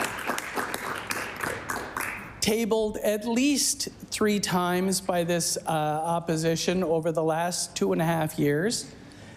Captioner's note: applause